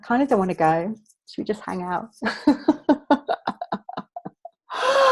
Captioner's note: laughing